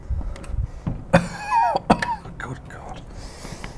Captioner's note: coughs